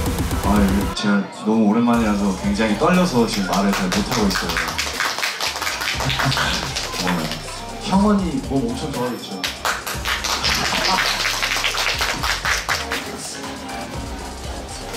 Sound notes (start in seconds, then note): 3.3 applauding instead of talking; 9.4 A burst of applause